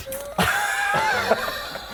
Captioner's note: indecisive laughter